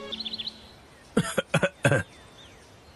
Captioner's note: coughing